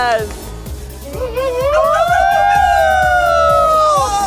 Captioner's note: upbeat party music; group cheering and whooping